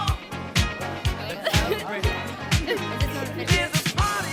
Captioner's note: light laughter